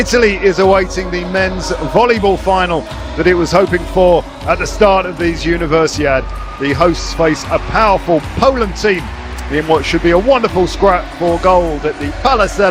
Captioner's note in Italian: Applauso